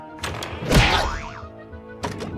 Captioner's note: boing!